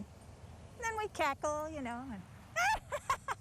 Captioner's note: witch laugh